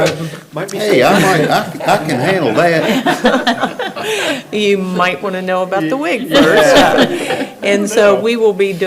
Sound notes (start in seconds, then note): 1.1 everybody laughing